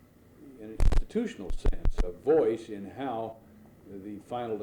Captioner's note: audio crackling